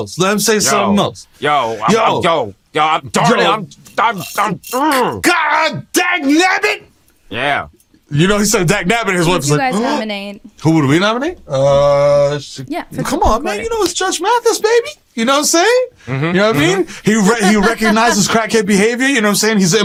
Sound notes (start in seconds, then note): 9.5 gasps; 17.4 laughter